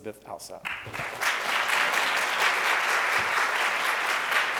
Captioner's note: audience applauds